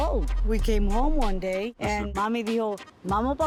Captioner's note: speaking in Spanish